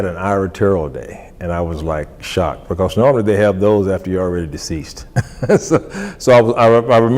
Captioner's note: laughs